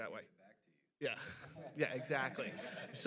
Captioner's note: panelists laughing